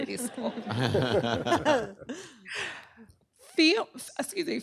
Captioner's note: laughter